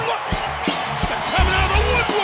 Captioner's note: audience cheers